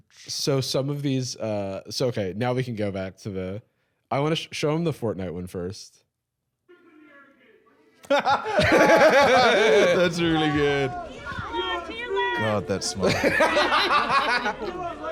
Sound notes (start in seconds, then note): 8.0 laughing; 12.8 laughing